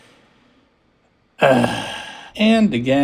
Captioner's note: sigh